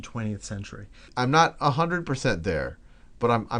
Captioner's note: voiceover